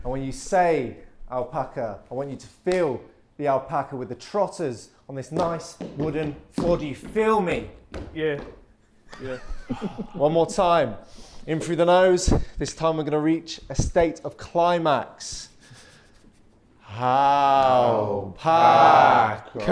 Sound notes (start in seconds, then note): 9.1 Sidemen laughing